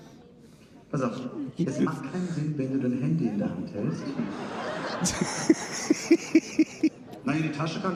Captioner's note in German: gelächter